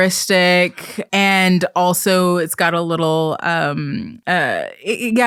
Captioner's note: stammering